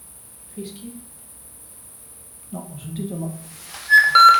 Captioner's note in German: Pfeifen